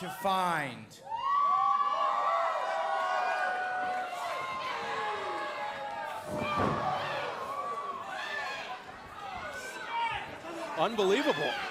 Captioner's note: crowd cheering